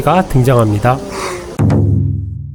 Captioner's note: gasp